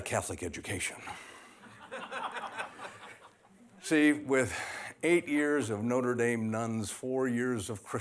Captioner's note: laughter